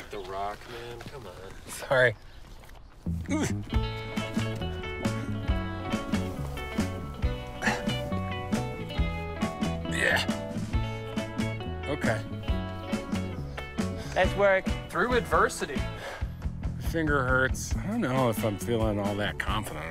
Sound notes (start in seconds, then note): 3.2 grunts; 6.1 soft music